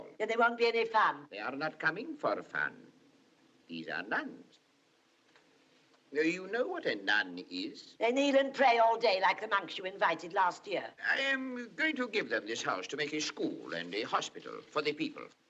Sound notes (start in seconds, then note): none